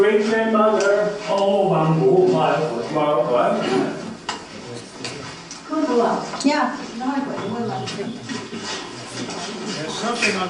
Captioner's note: speaking Hoisin-wa